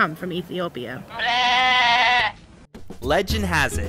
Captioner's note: goat bleating